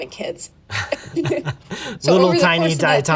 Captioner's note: both laugh